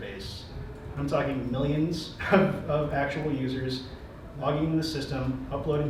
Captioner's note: laughs